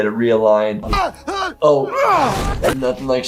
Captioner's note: head smash